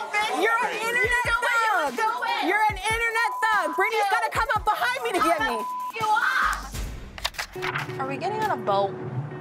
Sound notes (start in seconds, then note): 5.2 beep